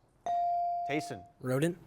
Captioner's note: bell chiming